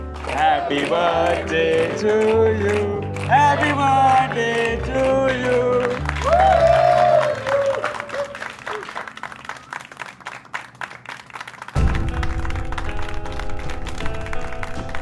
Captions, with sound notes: "Happy birthday to you." "Happy birthday to you." [cheers] [claps] [dramatic music playing]